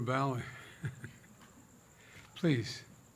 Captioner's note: laughs